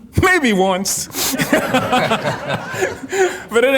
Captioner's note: everyone laughing